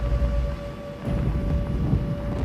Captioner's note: air raid sirens